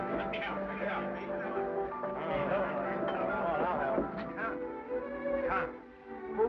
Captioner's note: lively piano music; men chatter